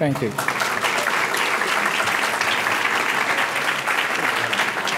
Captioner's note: audience clapping